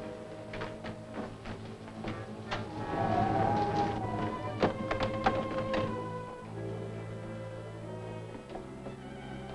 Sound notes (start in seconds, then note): 1.2 wind howling; 1.9 pensive music